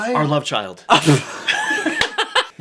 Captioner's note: laughs